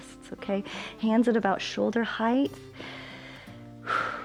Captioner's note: inhales and exhales